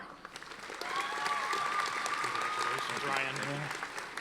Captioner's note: audience applauding